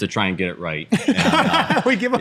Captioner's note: laughter